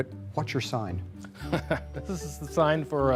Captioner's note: laughing